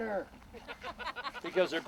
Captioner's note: laughs